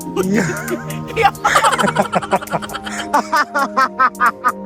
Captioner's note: laughing SFX; continuously laughing